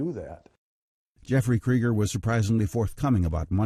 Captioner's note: voiceover